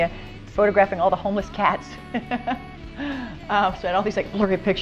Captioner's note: laughing